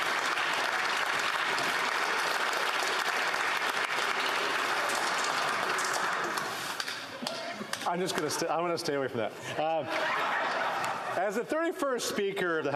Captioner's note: some Applause